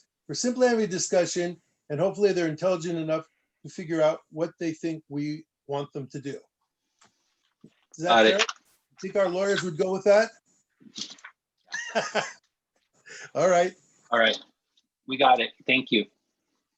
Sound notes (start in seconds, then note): 11.7 laughter